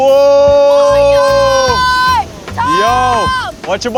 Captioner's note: kid shouting